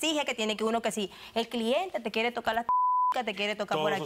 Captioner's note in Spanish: Bip